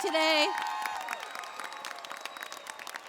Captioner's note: cheers and applause